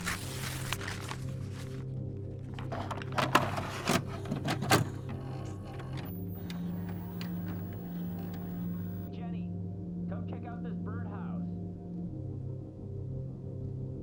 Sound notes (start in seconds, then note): 0.0 paper ripping; 2.5 VHS machine clunks and whirs